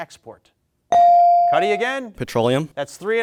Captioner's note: bell dings